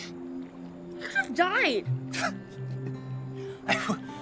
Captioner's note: chuckles